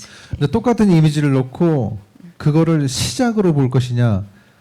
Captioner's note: speaking korean